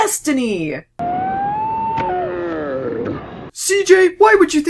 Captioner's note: slowed down cheerful reunion noises